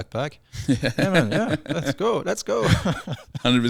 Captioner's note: laughing